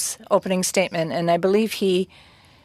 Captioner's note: speaking French